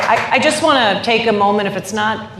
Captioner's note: applause